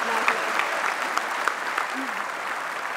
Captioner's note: applause